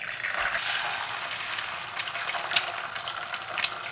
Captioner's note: pan sizzling